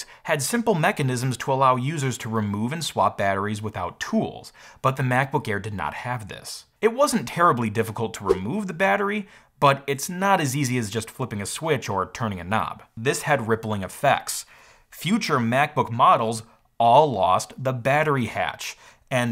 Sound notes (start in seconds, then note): 9.2 swoosh